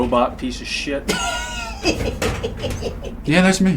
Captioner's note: Adam laughing